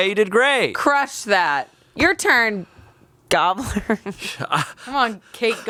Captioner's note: laughs